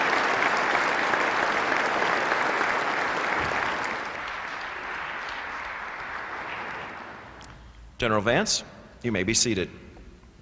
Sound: applause

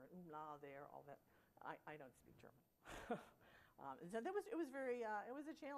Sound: laughter

